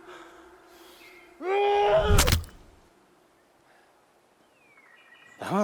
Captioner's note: Ander shouting